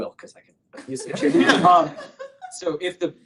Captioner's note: laughter